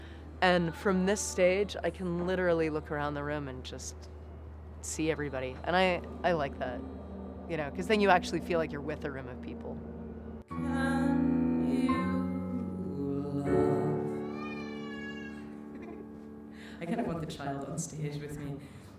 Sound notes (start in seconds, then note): 14.1 baby cries; 15.4 laughs